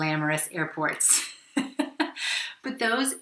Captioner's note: laughing